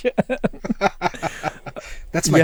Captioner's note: laughter